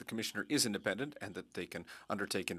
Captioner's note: speaking French